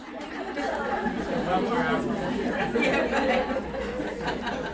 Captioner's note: audience laughter